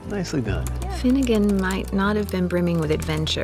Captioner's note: typing